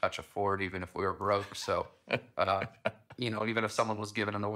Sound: laughs

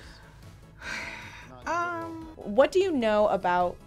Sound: sighs

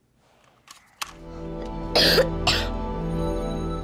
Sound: coughs

